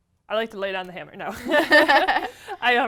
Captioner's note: laugh